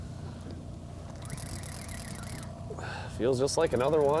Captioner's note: reel winding